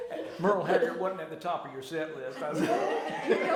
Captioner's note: laughter